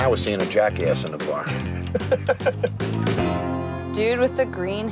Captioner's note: upbeat country music; laughing